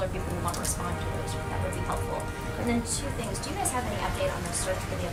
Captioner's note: applause track